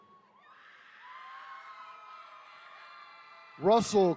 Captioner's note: attendees cheering